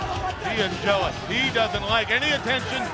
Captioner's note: crowd chatter